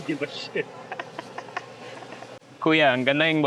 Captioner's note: laughs